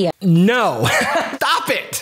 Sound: laughs

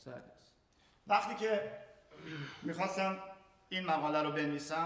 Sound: speaking in farsi

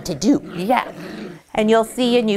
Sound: puppy growls

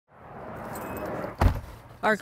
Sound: traffic roaring; car beeps; door slams

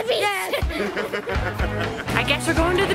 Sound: laughs

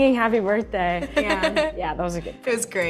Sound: Rachel laughs

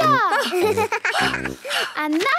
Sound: giggles; panting

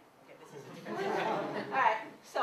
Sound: laughter

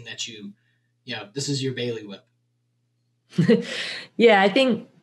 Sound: laughs

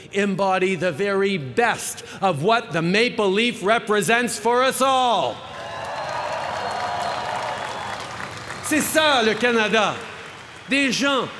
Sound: cheering

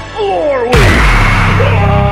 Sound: powerful impact

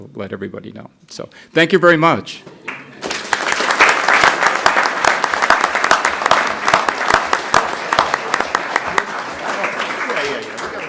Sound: applause

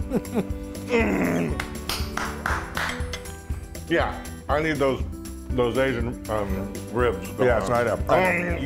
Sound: laugh; applause

